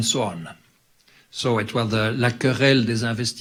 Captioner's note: speaks in foreign language